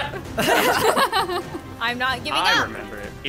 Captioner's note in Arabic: ضحكات درامية